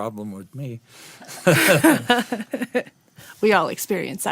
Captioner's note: laughter